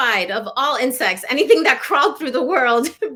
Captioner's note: laughter